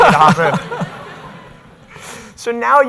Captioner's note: audience laughs